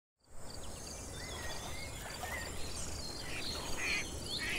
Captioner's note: nature sounds